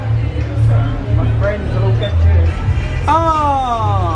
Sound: guests chattering

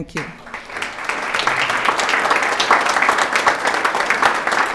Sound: attendees applauding

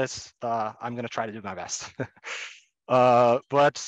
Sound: chuckles

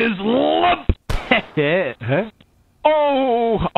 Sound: gunshot

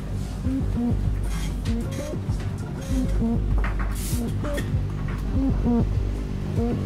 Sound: sounds of hospital corridor foot traffic

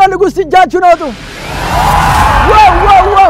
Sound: crowd scream

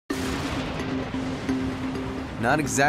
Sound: thunder; crashing waves

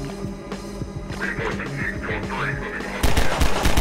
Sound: Combine radio chatter; gunshots

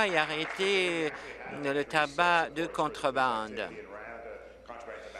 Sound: applause

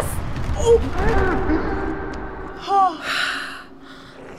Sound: exhaling sharply; guest snarling

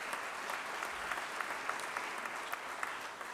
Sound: applause

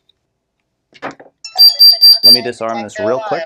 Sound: beeping

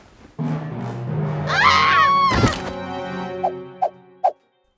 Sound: scream

